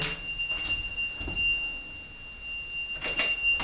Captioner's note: beeping